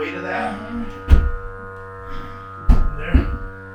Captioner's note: dolly buzzing; stone slab thuds